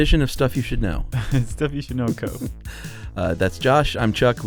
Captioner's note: laughs